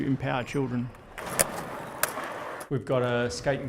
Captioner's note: skateboard rolling